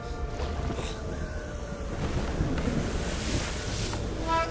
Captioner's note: wind Whistling